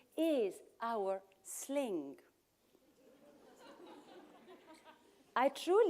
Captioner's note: laughter